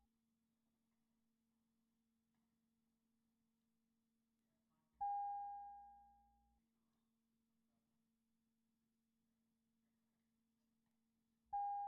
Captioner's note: bells Ringing